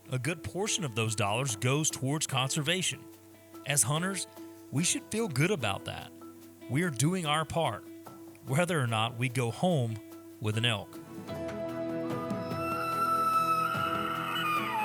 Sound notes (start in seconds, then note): 10.5 rhythmic music; 12.2 elk bugles